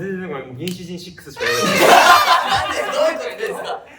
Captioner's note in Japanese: 笑い声